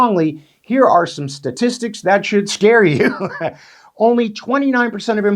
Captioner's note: chuckles